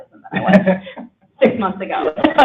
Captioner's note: laughter